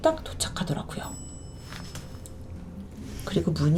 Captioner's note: ding